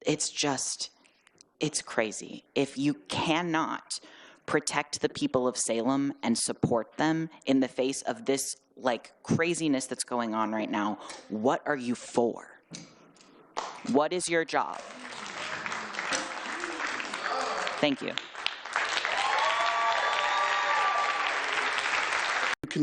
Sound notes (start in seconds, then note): 16.8 applause; 19.4 applause and cheering